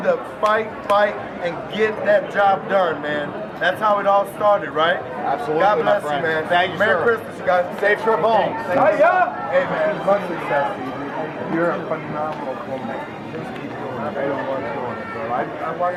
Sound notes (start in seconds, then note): 8.6 crowd chattering